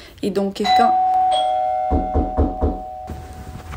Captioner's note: ding dong, knock knock knock